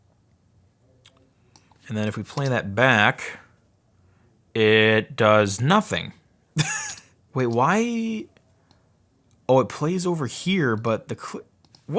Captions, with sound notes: And then if we play that back. It does nothing. (laughing) Wait why... Oh it plays over here but the...